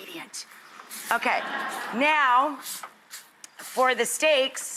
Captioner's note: audience laughs